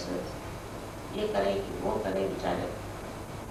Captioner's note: hindi